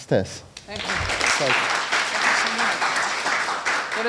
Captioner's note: applause